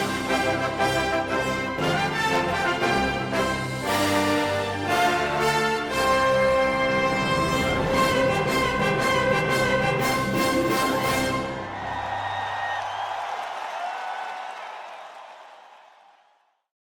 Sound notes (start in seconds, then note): 12.1 crowd cheering